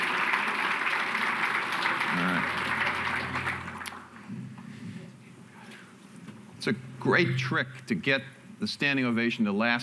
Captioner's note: applause